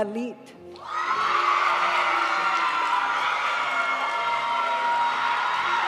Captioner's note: audience cheering and applauding; graduation music